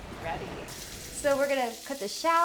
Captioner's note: waves crashing; shallots and garlic sizzling